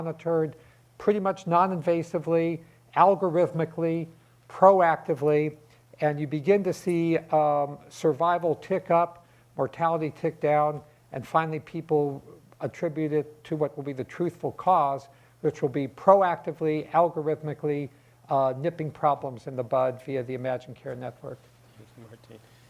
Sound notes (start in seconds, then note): none